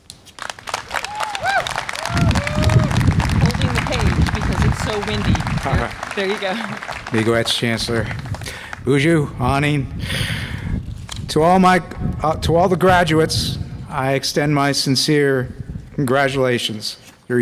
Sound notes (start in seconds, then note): 1.1 audience applause and cheer; 7.3 speaks in foreign language